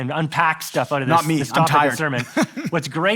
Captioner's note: laughs